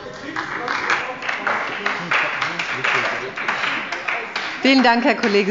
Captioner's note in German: Beifall bei der SPD